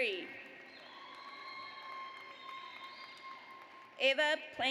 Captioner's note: audience applauds